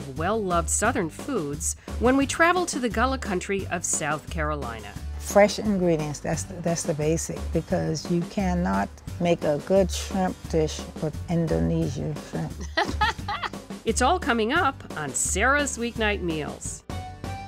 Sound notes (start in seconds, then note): 12.6 laughs